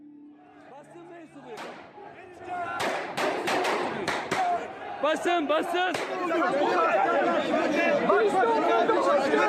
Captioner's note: yelling and gunfire